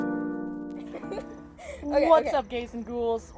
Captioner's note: us Laughing